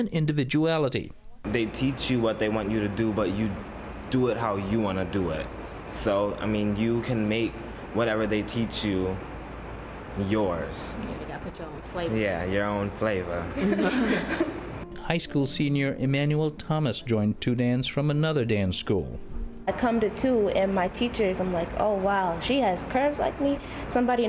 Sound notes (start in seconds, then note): 13.4 laughter